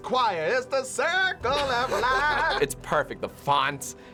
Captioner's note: laughs